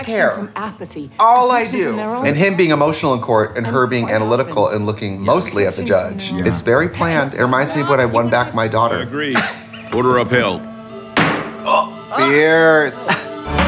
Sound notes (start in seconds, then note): 9.2 laughing; 11.6 inhales; 13.4 upbeat Music